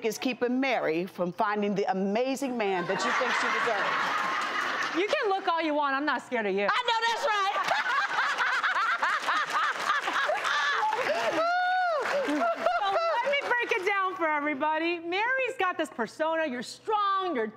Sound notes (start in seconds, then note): 2.8 audience laughs; 7.2 laughing